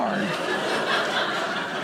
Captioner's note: audience laughing